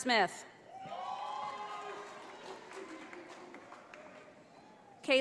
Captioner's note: audience applauding